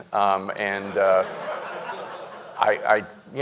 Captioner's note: audience laughing